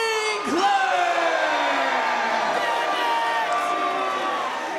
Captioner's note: audience booing